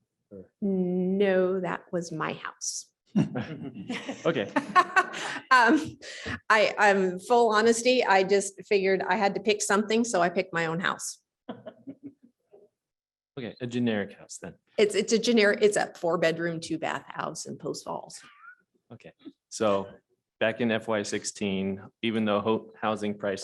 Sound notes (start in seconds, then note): 3.1 laughter